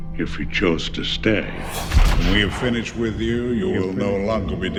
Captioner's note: echo; hit/swoosh